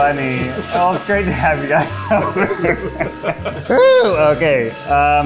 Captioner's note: laughs